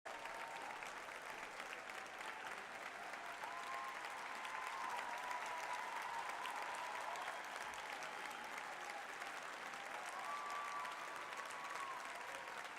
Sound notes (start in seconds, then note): 0.0 applause, cheers